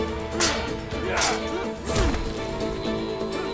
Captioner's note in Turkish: Kılıç sesleri